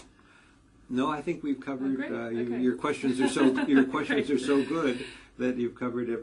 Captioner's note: laugh